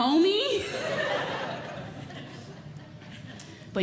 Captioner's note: audience Laughing